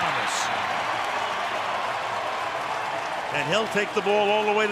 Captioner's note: cheering